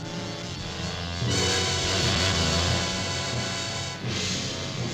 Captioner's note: wasp buzzing; menacing orchestral music